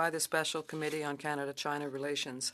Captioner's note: speaking French